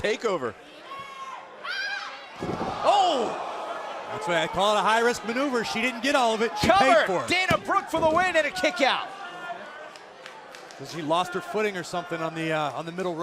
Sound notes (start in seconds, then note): 4.6 crowd cheering